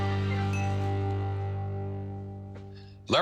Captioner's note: door bell jingles